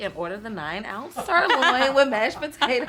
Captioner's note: Margaret laughing